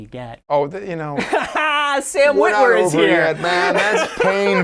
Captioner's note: laughing